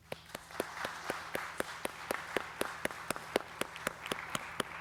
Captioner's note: audience applauding